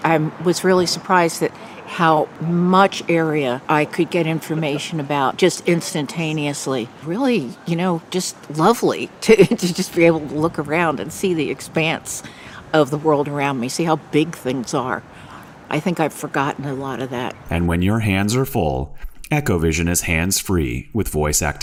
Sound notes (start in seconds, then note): 9.2 laughs